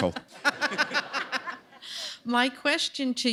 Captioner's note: laughter